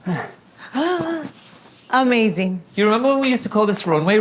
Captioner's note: gasps